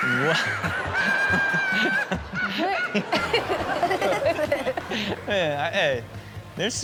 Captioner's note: group laughs; man laughs; audience laughs